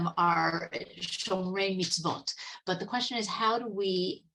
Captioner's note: speaking Hebrew